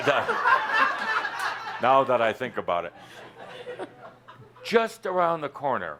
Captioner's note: laughter